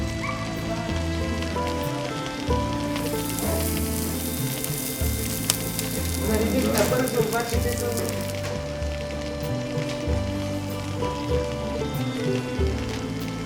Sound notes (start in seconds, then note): 0.1 soft music; 2.5 meat sizzling; 10.6 gentle guitar music